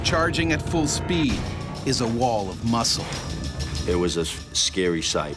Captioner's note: voiceover